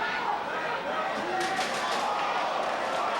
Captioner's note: chair clanging; spectators exclaiming